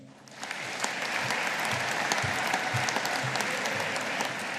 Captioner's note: audience applauding